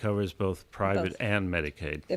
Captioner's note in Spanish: Hablando ingl\s